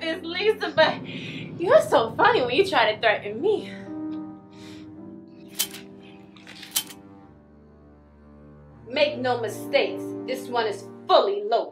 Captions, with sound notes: but you're so funny when you try to threaten me. (dramatic music) (trigger clicking) Make no mistake this one is fully loaded.